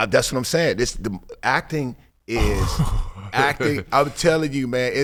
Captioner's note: laughing